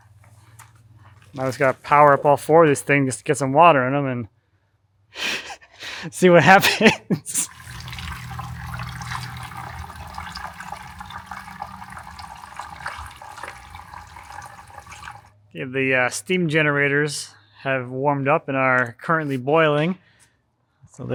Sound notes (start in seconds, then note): 6.5 laughs; 7.3 water gurgling